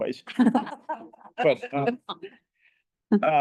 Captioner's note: audience laughing